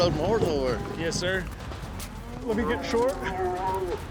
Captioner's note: cow moos